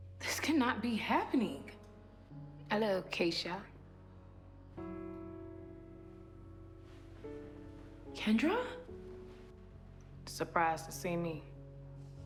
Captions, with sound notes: This cannot be happening. (British accent) Hello, Keisha. Kendra? (regular voice) Surprised to see me?